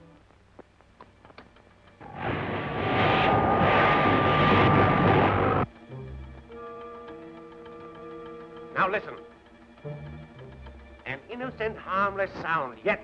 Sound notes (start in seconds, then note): 2.0 machinery whirring; 5.8 timer ticking